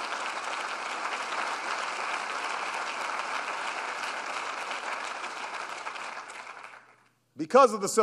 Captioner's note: applause